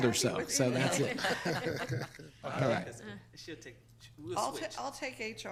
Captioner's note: laughing